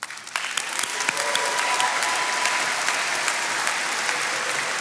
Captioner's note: attendees applauding